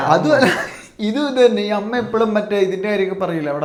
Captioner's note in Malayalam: തൊണ്ട ശരിയാക്കുന്നു